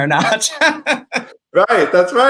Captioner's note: laughs